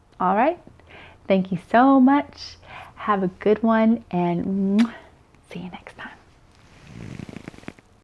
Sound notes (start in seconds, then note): 4.7 kissing sound